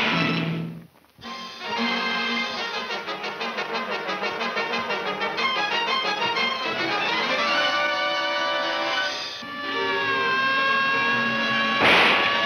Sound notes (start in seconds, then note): 9.3 siren wailing